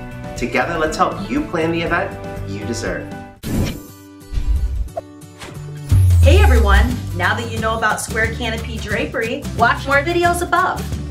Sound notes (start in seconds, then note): 3.2 air whooshing; 3.2 upbeat music